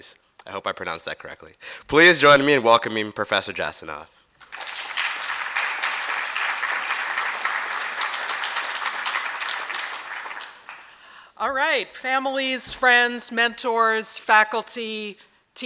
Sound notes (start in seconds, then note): 4.4 applause